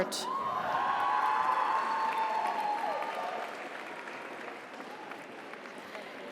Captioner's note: audience cheers; audience applauds